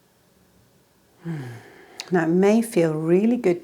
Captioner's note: exhales deeply